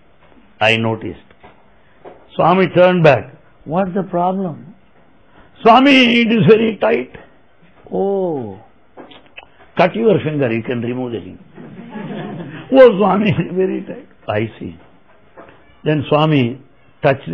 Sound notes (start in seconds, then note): 11.6 laughter